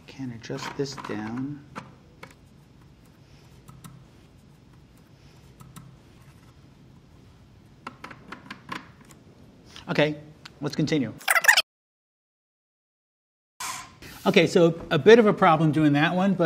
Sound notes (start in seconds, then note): 11.2 fast-forward squeaking